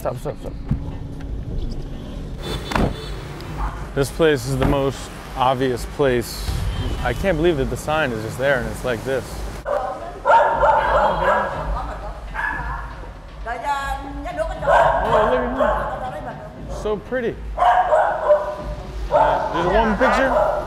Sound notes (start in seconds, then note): 2.4 car honking; 9.6 dog barking; 9.9 non-english speech; 13.0 non-english speech; 14.6 dog barking; 17.5 dog barking